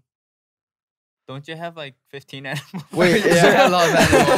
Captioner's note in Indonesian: tertawa